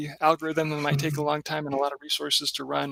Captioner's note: laughing